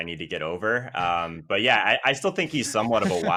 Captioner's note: laughs